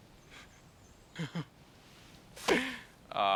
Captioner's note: Noah chuckles